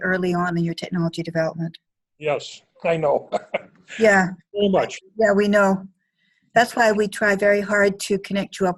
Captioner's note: laughter